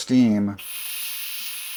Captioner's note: hissing sound